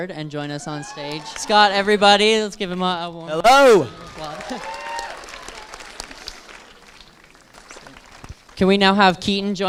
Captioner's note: moderate applause